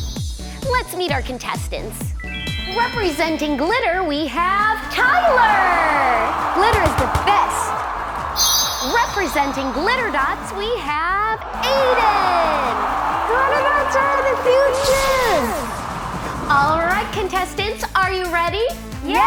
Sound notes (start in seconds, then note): 5.7 crowd cheering; 12.7 crowd cheering